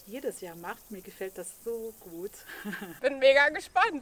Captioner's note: laughs